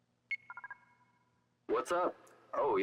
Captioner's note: phone ringing